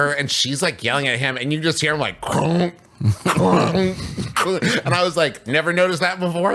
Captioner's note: crunch sounds